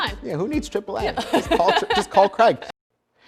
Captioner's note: laughing